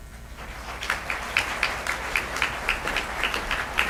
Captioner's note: applause